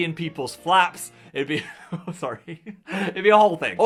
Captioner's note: chuckles